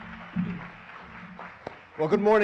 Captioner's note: audience Applauds